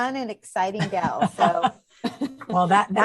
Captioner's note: laughing